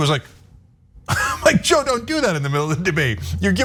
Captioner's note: laugh